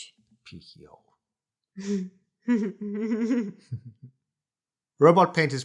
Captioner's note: moar giggles